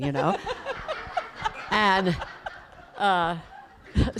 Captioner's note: laughter